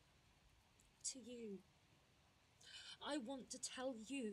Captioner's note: nyx takes a deep breath